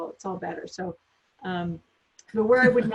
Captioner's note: laughs